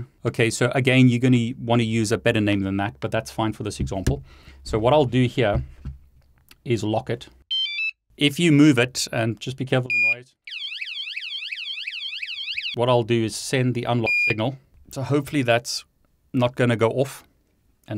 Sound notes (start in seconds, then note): 10.4 alarm sounds